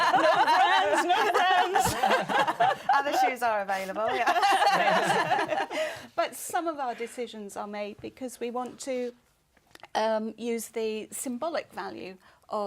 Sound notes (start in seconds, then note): 4.0 laughter